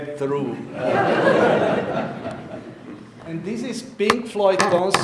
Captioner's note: audience laughing